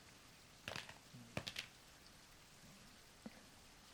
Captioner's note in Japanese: メガネが落ちる音